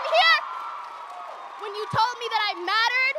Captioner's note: audience cheers and applauds